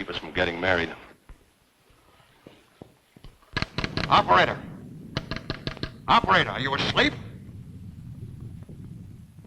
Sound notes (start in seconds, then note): 3.5 lever clicking